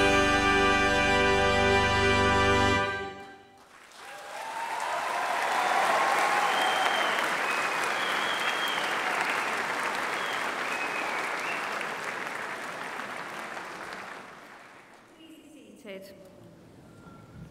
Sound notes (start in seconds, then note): 3.5 applause